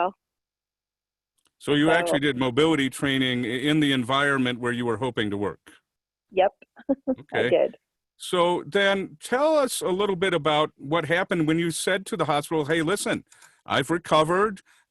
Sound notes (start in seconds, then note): 6.4 chuckling